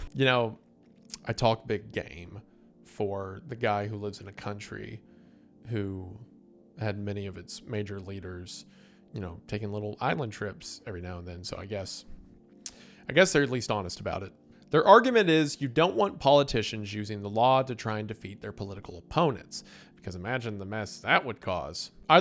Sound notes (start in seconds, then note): 12.6 clicks tongue